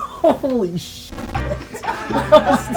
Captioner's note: buzz